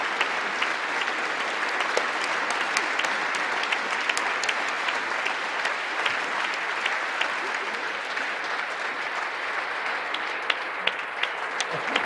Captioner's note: applause